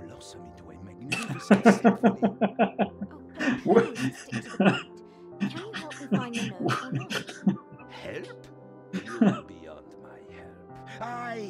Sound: laughs

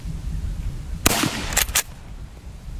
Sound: gun fires

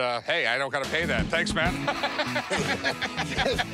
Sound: laughter

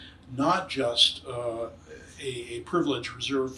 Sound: none

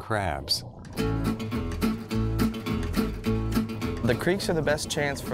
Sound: boat motor noise

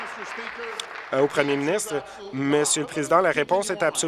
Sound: applause

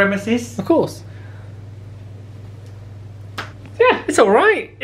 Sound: air con humming

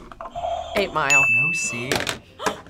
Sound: bell rings; buzzer rings; React gasps; gasps

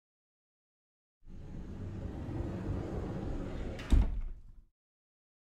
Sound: sound of door

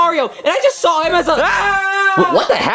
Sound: Junior screaming

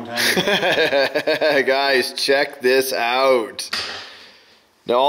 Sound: laughs

